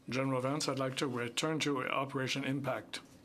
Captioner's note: speaking in French